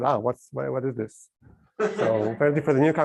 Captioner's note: laughter